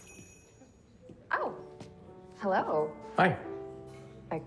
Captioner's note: bells chiming